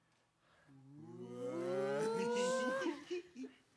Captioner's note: performers exclaiming; performers giggle